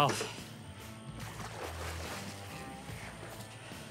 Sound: splashing

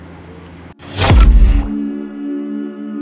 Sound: mechanical sound; tranquil music

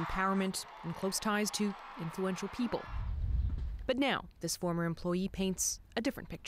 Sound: cheering and Applause

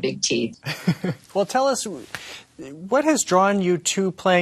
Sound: laughs

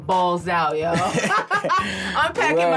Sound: laughing

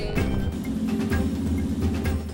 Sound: engine rumbling

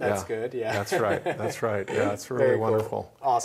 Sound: laughs

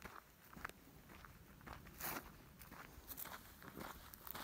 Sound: shoes scrapping

